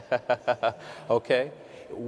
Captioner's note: laughs; audience laughs